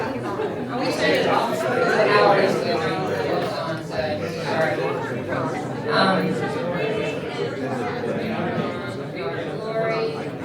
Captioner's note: crowd chattering